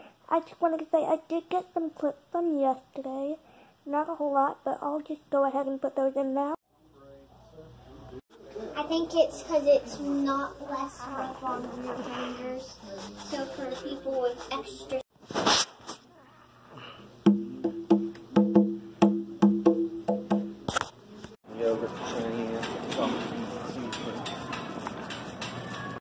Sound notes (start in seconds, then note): 6.6 people talking in background